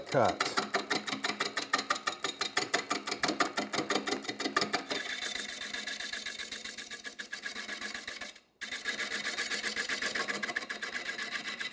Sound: wood lathe chattering

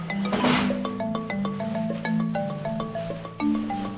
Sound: tools banging, plastic rustling

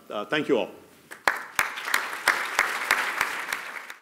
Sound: applause

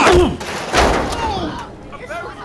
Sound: crash; commotion

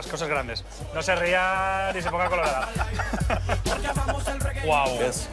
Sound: laughing

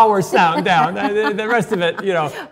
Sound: Cynthia laughs

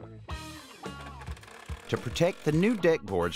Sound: clattering

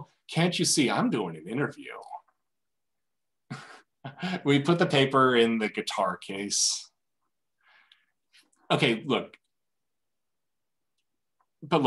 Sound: chuckles

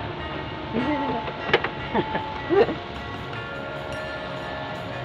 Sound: laughing

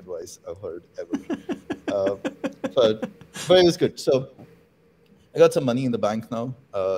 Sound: laughter

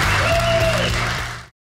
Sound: audience cheers

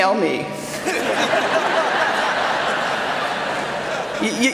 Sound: laughter

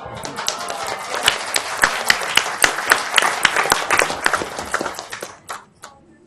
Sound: audience applauds

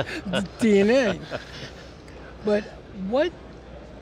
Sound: all laugh

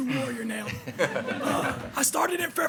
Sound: group laughs

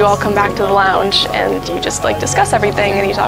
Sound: crowd chatter

